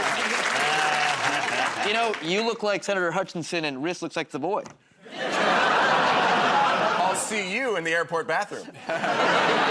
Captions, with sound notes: The confetti is just a shredded NDA. -You know, you look like Senator Hutcherson, and Rhys look like the boy. [ Laughter ] -I'll see you in the airport bathroom.